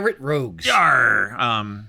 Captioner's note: pirate voice